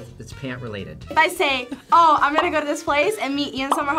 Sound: bubble pops

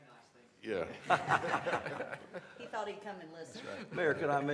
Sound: laughter

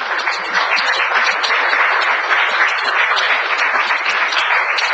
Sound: audience applauds

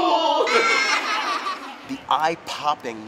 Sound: laughter

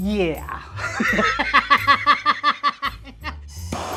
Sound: laughing

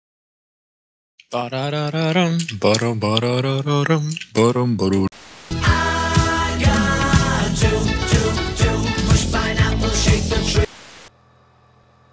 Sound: humming

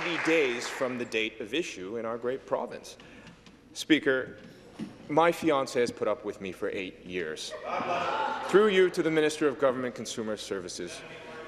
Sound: some Applause

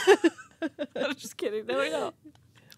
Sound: laughing

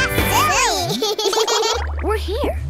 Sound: laughing

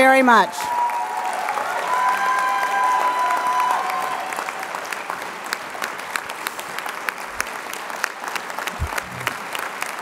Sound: applause

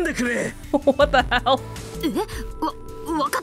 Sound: chuckles

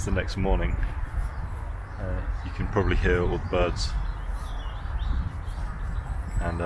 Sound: birds singing

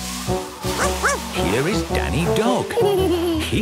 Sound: barking; laughing

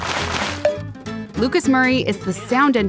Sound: chips crunching; jar lid opening; drumstick tapping

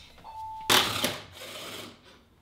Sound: battery-operated drill

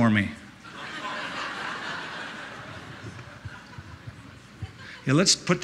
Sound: laughter

